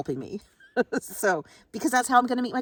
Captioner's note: chuckles